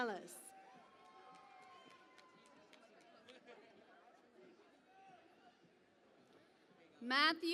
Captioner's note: cheering and Applause